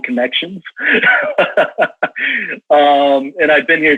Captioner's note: laughs